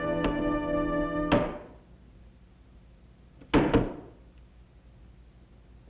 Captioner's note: thumping